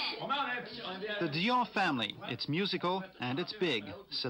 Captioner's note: laughing; indistinct chatter